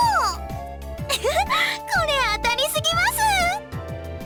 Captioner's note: laugh